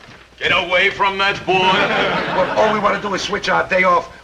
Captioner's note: audience chuckling